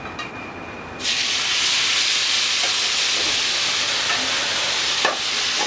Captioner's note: pan sizzling